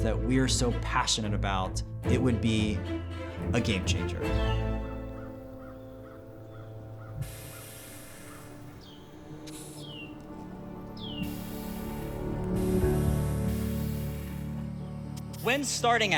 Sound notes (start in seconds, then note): 4.2 birds chirping; 15.1 mellow music